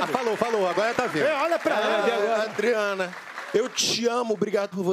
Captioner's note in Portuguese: aplausos